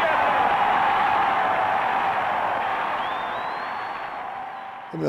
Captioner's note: crowd cheering